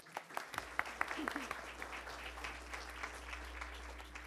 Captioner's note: attendees applauding